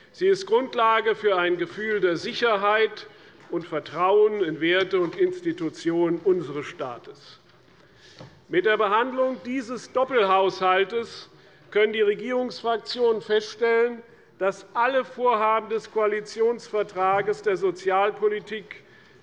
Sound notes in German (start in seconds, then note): none